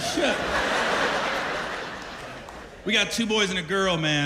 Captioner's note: laughter